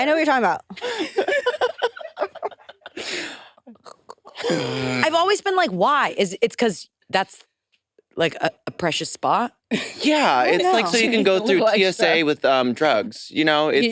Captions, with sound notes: It's like right there. - I know what you're talking about. (participants laughing) - I've always been like, why? Is it's because that's like a precious spot? - Yeah. It's like so you can go through TSA with drugs.